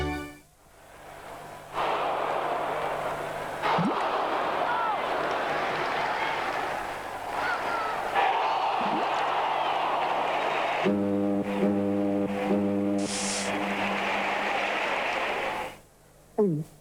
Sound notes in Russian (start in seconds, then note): 2.0 бульканье; 2.0 гудок